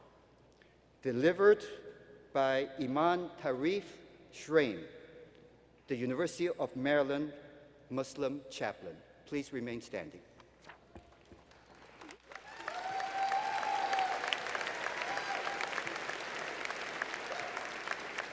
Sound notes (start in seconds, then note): 11.2 applause